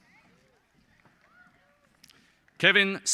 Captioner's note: applause